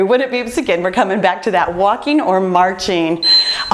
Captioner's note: timer beeps